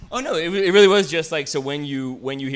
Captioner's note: none